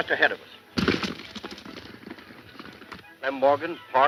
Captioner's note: horse galloping